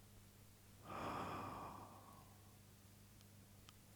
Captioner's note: exhales